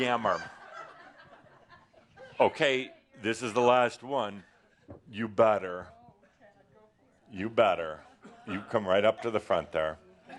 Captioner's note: laughter